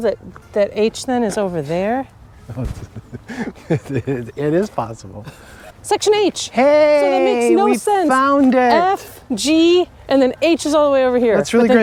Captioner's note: laughing